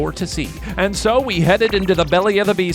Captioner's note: digital pulsing